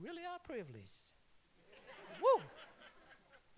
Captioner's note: laughter